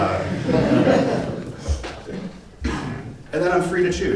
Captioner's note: audience laugh